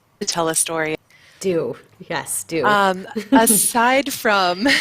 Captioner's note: chuckles